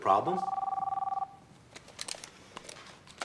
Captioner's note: phone ringing